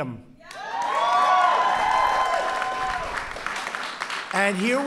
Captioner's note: applause